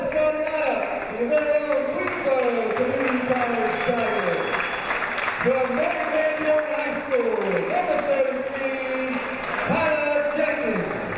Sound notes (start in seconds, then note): 5.0 cheering; 5.0 clapping